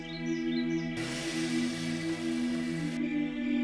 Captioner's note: birds chirp; chain saw; crickets